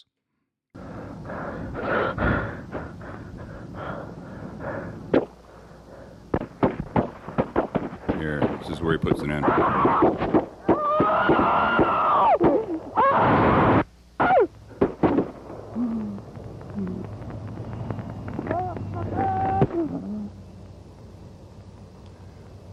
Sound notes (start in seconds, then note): 1.7 panting; 6.3 gunshots; 14.2 gunshots